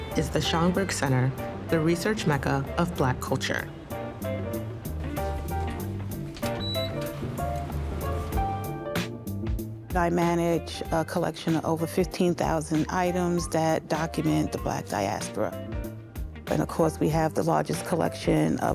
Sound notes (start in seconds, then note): 4.3 bright upbeat music; 6.3 door lock beeps; 8.0 bright upbeat music